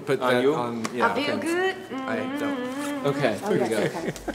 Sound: hums

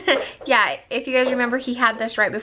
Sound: laugh

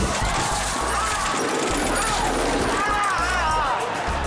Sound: screaming

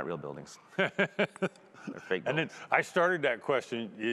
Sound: laughing

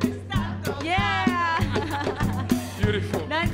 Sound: laughs

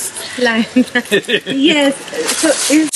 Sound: both laugh

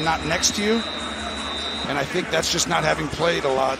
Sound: whistle blowing

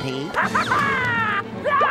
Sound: laughing

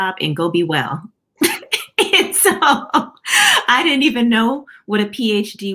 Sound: laughter

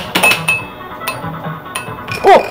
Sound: ping; pong

